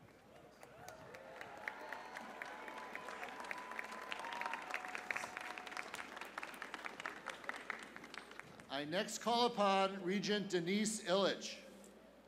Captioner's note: cheers and applause